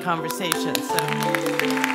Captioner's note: applause